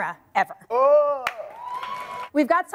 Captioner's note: audience cheers